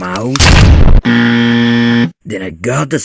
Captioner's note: buzz